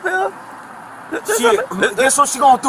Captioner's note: police officer stuttering